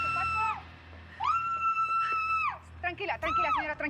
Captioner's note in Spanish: gritos